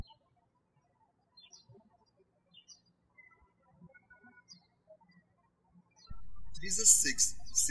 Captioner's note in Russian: птички щебечут